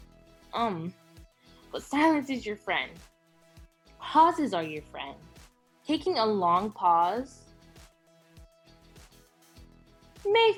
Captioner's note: long pause